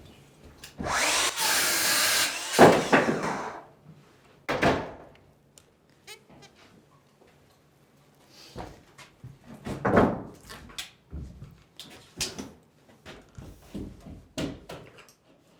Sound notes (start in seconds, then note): 0.8 sawing sounds